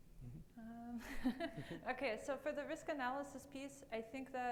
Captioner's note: laughs